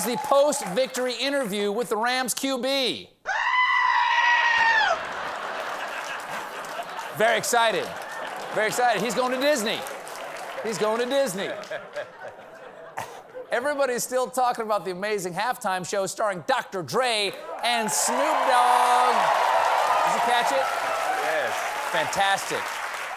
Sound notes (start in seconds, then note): 3.2 human voice screaming; 4.8 laughter; 14.7 laughter